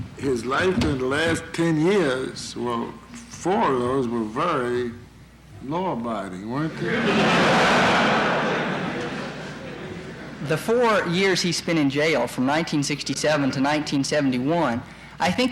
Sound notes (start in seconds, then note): 6.7 laughter in courtroom